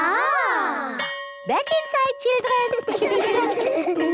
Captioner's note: school bell